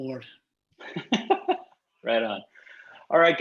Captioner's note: laughs